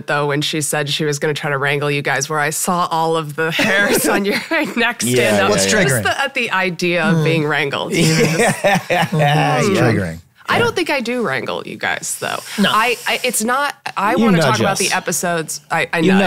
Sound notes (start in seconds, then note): 7.9 Glenn laughing